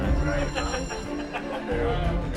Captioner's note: johnny depp laughing